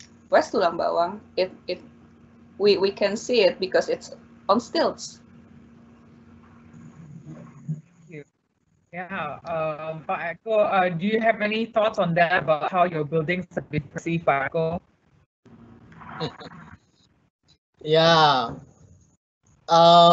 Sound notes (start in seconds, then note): 15.5 audio glitching; 16.6 laughing